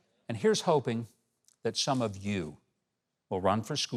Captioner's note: none